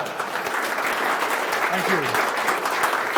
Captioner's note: laughs; applause